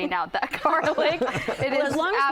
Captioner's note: laughing